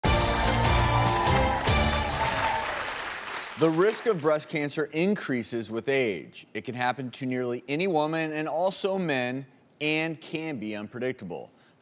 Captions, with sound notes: (upbeat music) (audience applauding) - The risk of breast cancer increases with age. It can happen to nearly any woman and also men, and can be unpredictable.